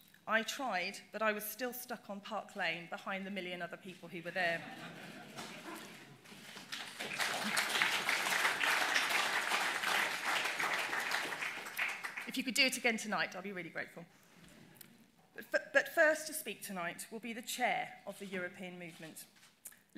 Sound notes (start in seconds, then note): 6.2 applause